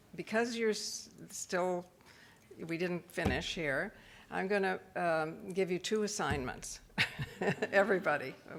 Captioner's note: laughs